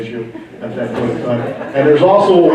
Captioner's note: laughing